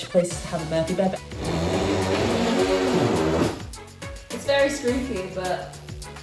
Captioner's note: bed creaks